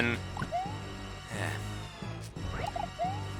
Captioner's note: sigh